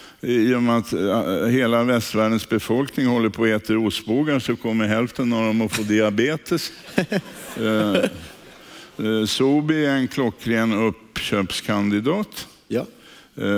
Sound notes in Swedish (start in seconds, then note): 6.8 skrattar